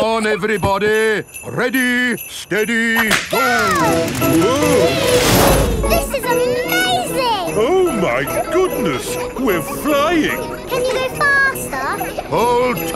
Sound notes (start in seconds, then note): 4.8 all exclaiming